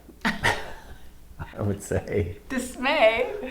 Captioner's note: laughing